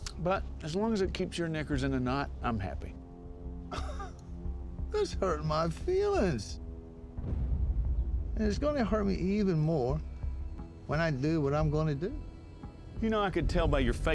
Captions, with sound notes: BUT AS LONG AS IT KEEPS YOUR KNICKERS IN A KNOT, I'M HAPPY. [LAUGHS] [SCOTTISH ACCENT] THAT'S HURTIN' MY FEELINGS. AND IT'S GONNA HURT ME EVEN MORE WHEN I DO WHAT I'M GONNA DO. YOU KNOW, I COULD TELL BY YOUR FACE